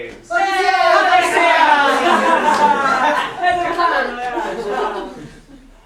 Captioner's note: sailors chattering in grammelot